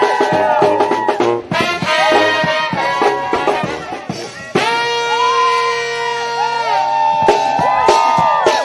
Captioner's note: cheering and applause